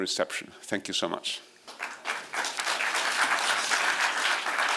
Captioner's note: applause